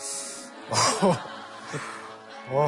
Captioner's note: hahaha